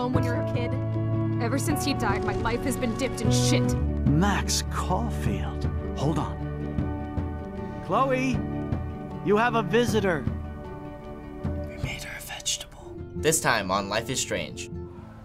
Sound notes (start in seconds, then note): 11.5 whispers